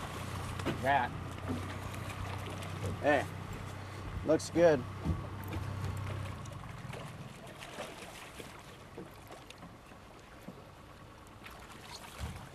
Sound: fish splashing

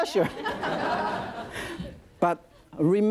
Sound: audience laughing

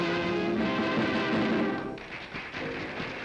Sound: applause

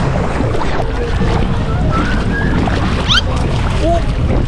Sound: water swooshing

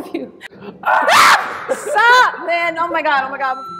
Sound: scream; beep

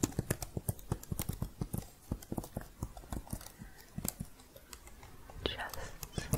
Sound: typing

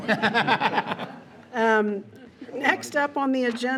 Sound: board members laughing

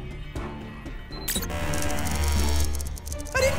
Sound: alarm blaring

